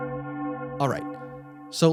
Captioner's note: bell toll